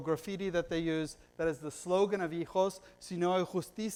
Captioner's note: foreign language